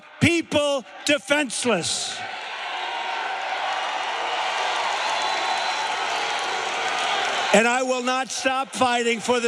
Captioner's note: cheers and applause